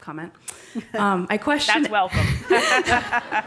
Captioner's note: laughs